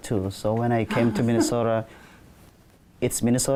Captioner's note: chuckles